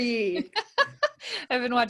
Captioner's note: laughing